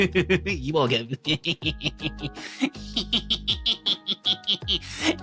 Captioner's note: laughs; laughs